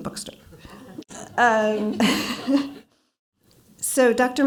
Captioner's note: laughter